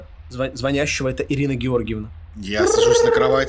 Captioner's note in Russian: Звук телефона